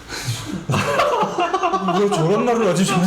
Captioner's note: laughing